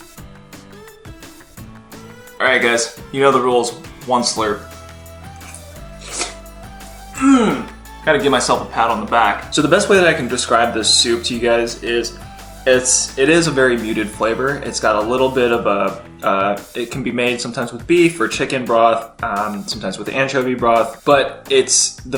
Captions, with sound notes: Alright guys you know the rules once through (upbeat music) (moans) Had to give myself a pat on the back. So the best way that I can describe this soup to you guys is it is a very muted flavor. It's got a little bit of it can be made sometimes with beef or chicken broth, sometimes with anchovy broth but it's